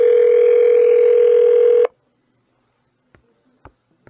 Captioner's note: phone still ringing